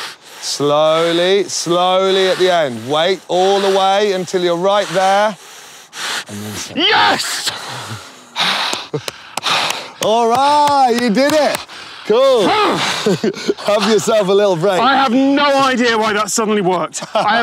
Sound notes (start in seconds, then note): 7.1 breathing heavily; 8.1 applauding; 13.5 grunts